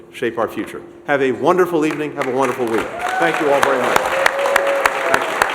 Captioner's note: applause